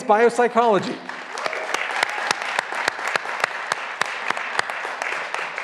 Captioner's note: graduands applauding